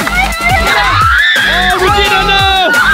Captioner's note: screaming